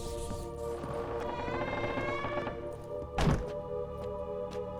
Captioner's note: door squeaks shut